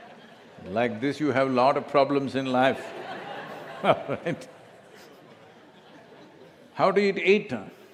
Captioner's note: laughter; laughter